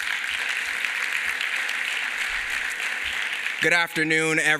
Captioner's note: applause